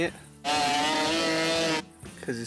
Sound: engine revving

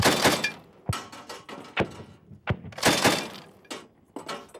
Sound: gun firing

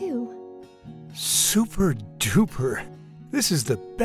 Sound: voiceover

